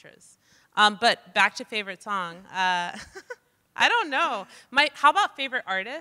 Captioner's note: chuckles